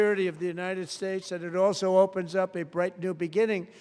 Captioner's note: applause